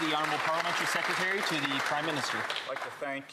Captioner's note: some Applause